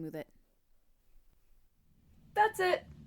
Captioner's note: awkward silence while I hair flip